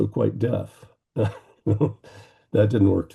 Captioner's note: laughing